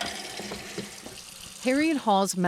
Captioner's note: water sloshing